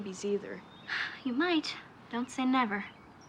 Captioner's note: exhales